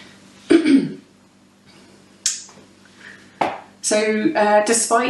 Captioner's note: clears throat